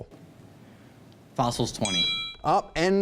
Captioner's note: bell ringing